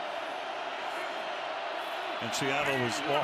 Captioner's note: cheering